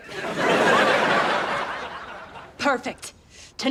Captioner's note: audience laughs